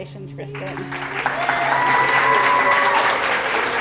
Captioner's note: applause